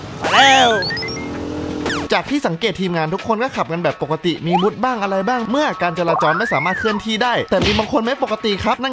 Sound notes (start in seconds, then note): 0.5 bike's engine